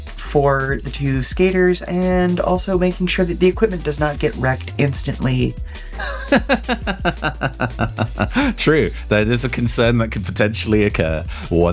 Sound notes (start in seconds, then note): 5.9 laughs